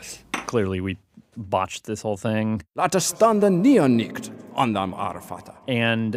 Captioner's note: speaking Old English